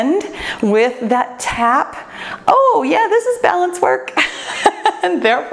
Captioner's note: laughs